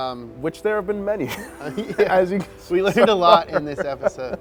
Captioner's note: laughing